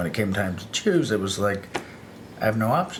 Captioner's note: none